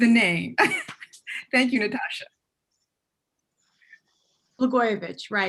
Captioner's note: chuckles